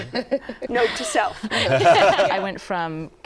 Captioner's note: laughter